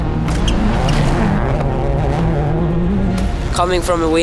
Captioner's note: engine revs